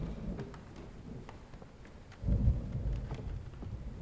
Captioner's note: thunder rolling